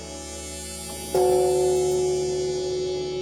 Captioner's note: gong clanging